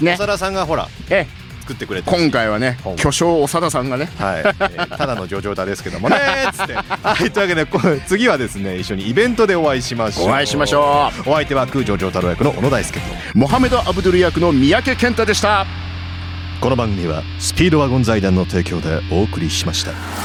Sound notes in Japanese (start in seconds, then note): 8.5 笑い